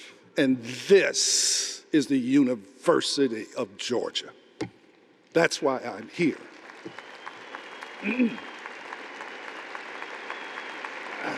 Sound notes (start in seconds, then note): 5.8 audience applauding